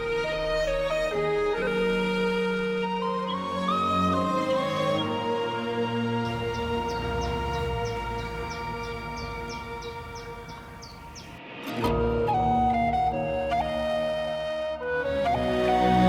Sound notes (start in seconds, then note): 6.7 birds chirping; 12.0 charming flute music